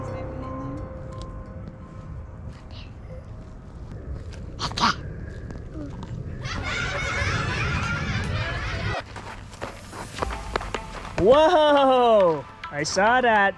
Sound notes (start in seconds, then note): 6.3 children laughing; 10.2 low techno music